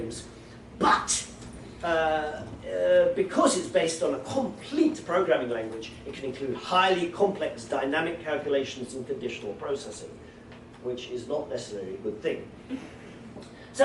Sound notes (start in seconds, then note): none